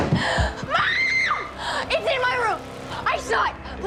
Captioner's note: screams